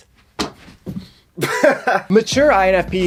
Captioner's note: chuckling